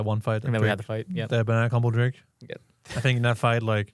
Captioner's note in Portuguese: risos